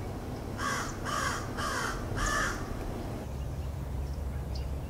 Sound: crows cawing

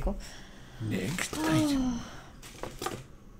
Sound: sigh

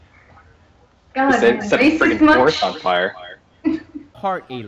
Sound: laughter

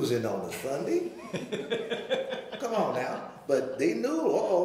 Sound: laughing

